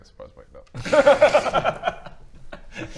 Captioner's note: fatalistic laughs